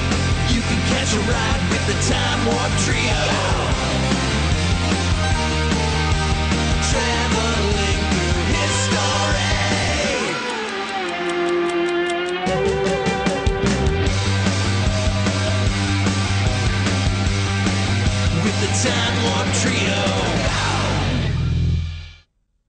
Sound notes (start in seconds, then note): 8.8 ticking